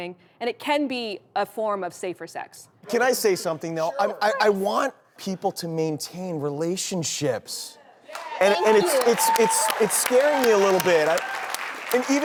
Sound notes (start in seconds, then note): 8.1 crowd cheers and claps